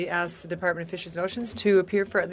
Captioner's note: speaking in French